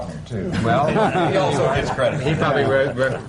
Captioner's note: laughter